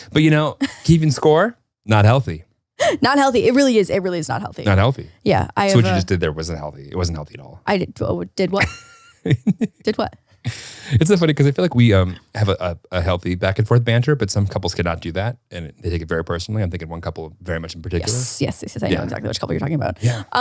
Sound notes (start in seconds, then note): 0.0 laughs; 8.6 laughs